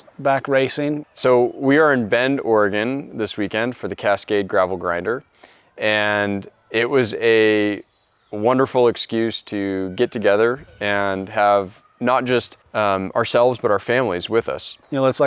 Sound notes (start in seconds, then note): none